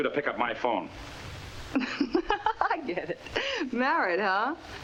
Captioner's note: laughs